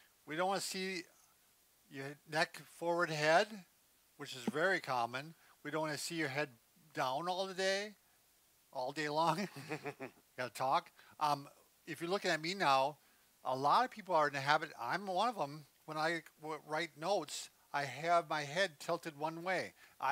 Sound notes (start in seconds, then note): 9.2 chuckling